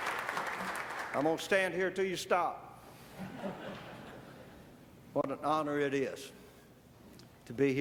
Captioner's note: applause